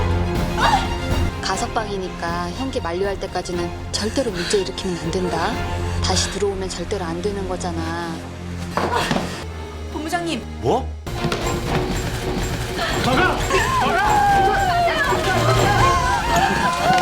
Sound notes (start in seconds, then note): 12.4 reporters rushing in; 13.5 staying pretty while crying